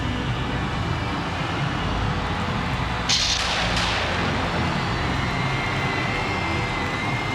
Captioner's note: dramatic music continues; audience cheering